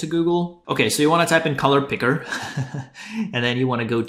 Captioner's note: chuckles